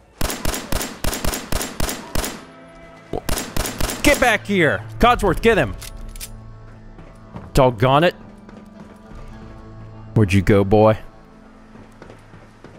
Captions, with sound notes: *BLAM! BLAM! BLAM! BLAM! BLAM! BLAM! BLAM! BLAM!* *BLAM! BLAM! BLAM! BLAM!* Get back here! Codsworth, get him! Doggonit! Where'd you go, boy?